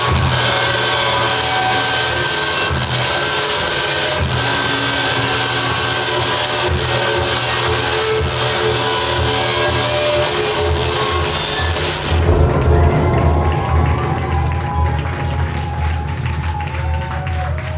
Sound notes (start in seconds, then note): 12.8 audience applauding